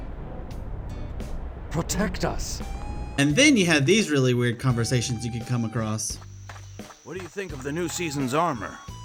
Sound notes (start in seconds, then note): 1.9 actually angrily